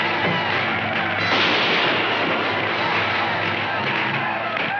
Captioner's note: gunshot firing